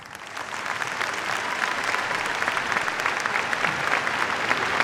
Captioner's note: applause